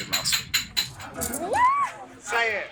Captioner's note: Nicole squealing